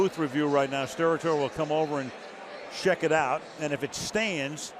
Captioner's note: cheering